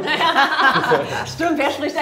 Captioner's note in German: Lachen